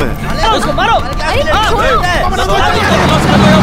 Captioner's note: raised voices